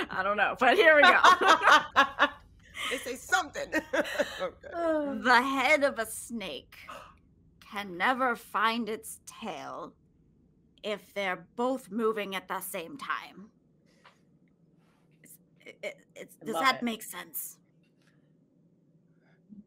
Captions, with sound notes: - I don't know but here we go. (all laughing) - They say something. - The head of a snake can never find its tail if they're both moving at the same time. Does that make sense?